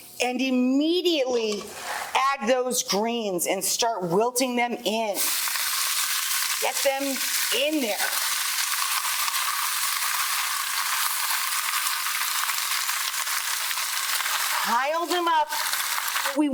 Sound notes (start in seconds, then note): 5.5 greens sizzling